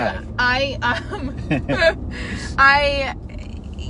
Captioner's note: laughing